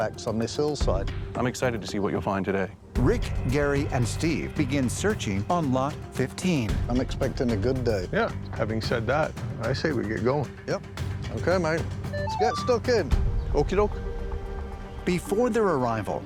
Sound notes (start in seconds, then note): 12.2 metal detector chimes